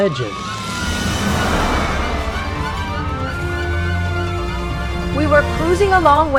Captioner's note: 🚨Sirens